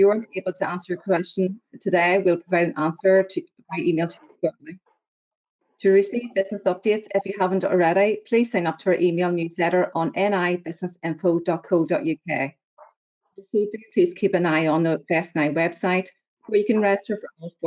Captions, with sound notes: you weren't able to ask your questions today, we'll provide an answer to, via email, to (audio distorts 13.27). To receive business updates, if you haven't already, please sign up to our email newsletter on nibusinessinfo.co.uk. Also, please do keep an eye on the Invest NI website where you can register for all